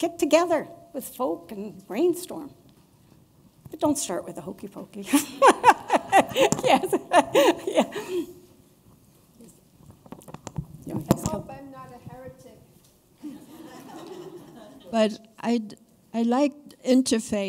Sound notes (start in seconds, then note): 13.2 laughter